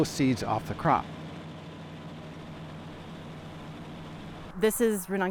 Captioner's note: harvester engine roaring